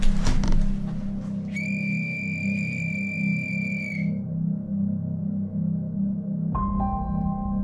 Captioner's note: blows the death whistle